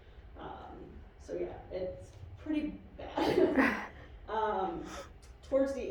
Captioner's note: laughs